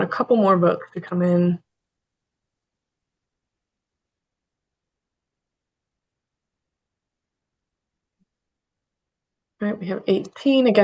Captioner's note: pause